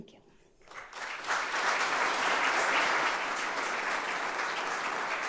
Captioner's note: audience applauding